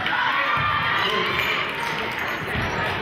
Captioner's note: cheering